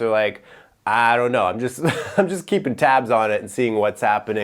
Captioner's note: chuckles